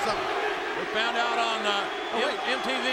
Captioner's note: crowd chanting